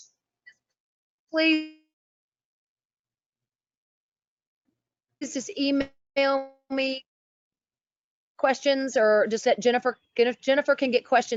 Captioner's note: sound loss